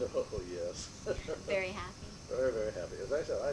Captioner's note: chuckles